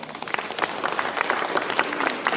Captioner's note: applause